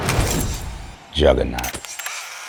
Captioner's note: camera flash bursting; camera whirring